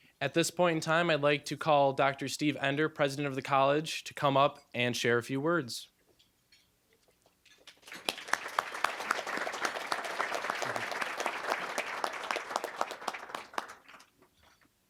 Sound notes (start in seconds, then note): 7.7 applause